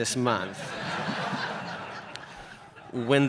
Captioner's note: audience laughs